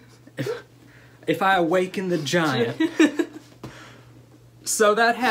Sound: laughter

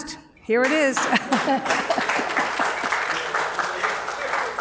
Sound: applause

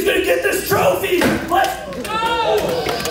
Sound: trophy thumps; audience groaning and laughing

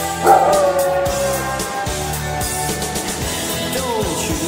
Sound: dog howls

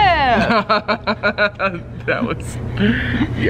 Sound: laughs

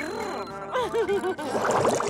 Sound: giggling

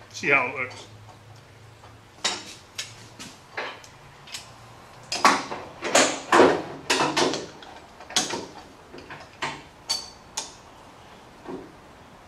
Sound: clamping

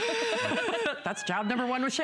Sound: laughter

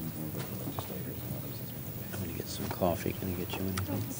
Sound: indistinct chatter

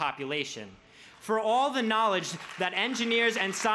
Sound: crowd claps

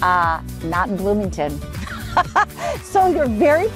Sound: laughs

